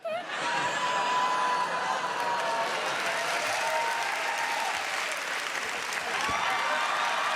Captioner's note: audience cheering; cheering intensifies